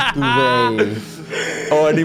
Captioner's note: laughs